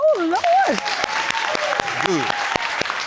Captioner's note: audience applauds